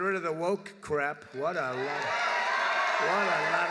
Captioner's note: applause